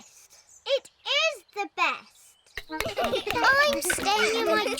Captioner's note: all laugh